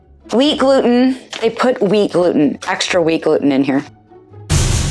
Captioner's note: explosion noise